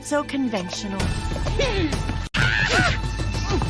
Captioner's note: grunting